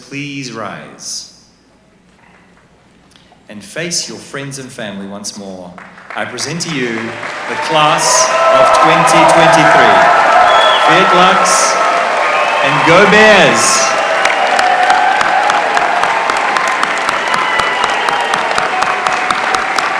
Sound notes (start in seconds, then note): 13.5 applause